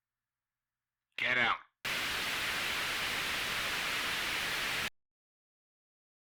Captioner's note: static